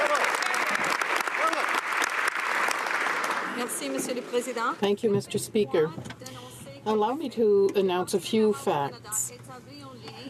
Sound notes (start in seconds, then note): 1.6 some Applause